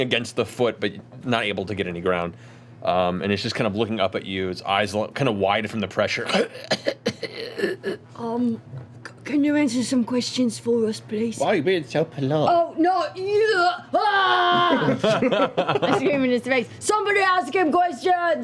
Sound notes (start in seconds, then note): 6.2 coughing